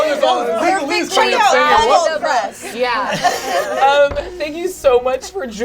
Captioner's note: overlapping excited chatter